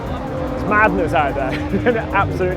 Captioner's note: chuckles